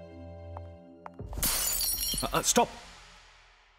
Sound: glass breaking

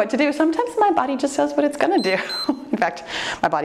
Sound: timer beeps

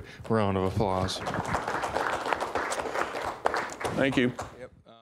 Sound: applause

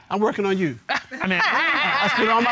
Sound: laughing

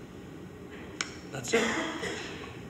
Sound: coughing

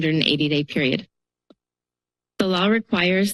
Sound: pause

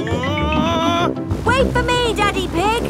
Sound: screaming

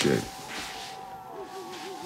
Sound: yelling

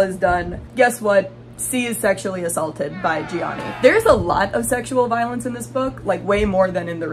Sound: audience booing

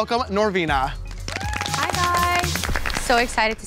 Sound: cheering

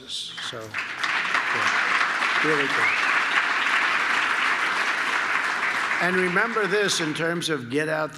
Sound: applause

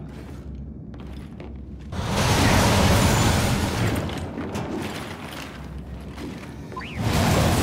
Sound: footsteps

